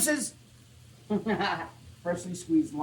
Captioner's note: laughs